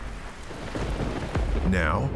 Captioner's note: thunder booming